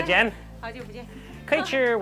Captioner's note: speaks in a foreign language; woman speaks in a foreign language; speaks in a foreign language